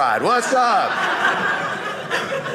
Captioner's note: audience laughing